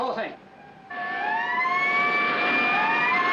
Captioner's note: alarm blaring